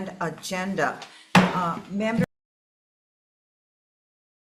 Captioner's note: banging gavel